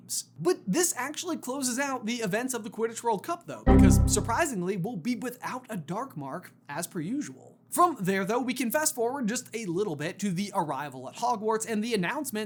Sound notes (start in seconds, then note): 3.7 error honk